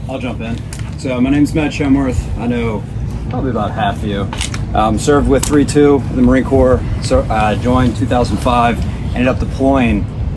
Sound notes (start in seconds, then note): none